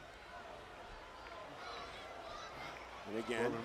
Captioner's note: crowd shouting